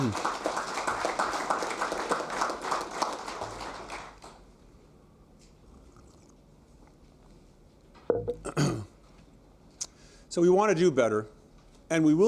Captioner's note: applause